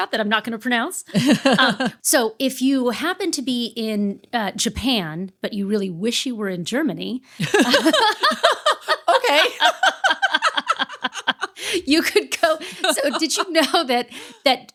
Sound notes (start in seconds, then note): 1.2 laughing; 7.4 laughing